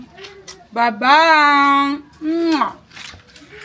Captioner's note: kisses